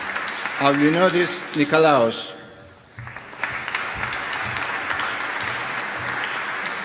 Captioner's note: applause